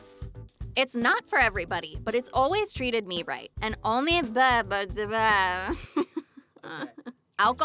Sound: giggles; stutters

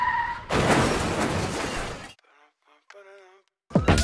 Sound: car screeches; crashing

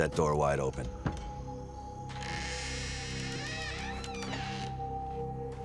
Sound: door creaking

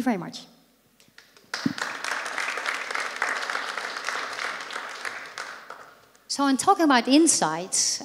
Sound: applause

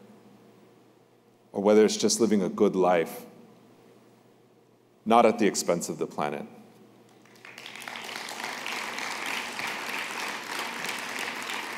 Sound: applause

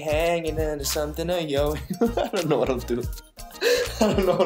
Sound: laughs

